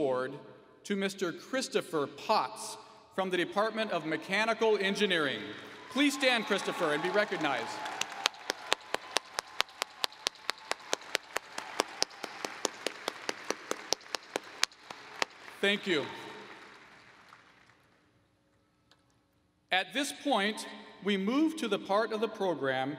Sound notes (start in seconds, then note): 12.5 applause